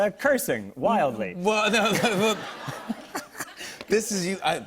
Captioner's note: laughter